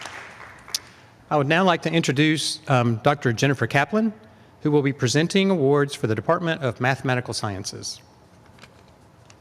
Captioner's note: applause